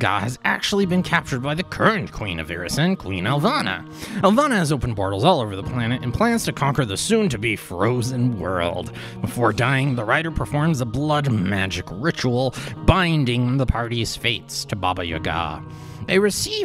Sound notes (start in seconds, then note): none